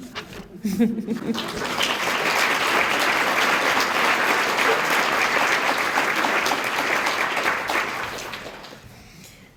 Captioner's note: applause